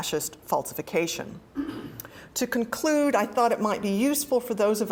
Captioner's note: cough